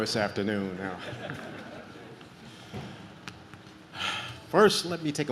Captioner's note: audience laughs